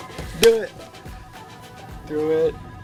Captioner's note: phone ringing